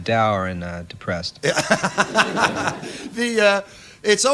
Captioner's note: laughs